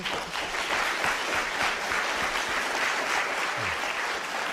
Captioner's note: applause